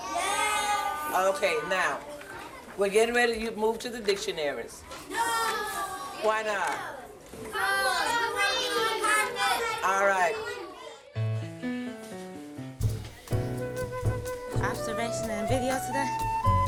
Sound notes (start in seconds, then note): 7.4 kids yelling; 11.2 soft music